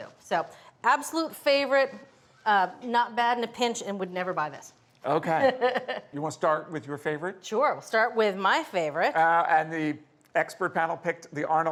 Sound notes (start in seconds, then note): 5.2 laughs